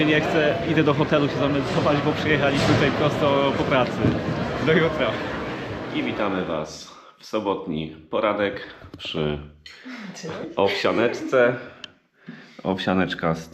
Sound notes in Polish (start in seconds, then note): 10.2 śmiech